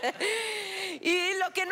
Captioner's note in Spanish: Risas